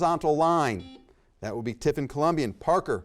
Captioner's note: buzzer beeps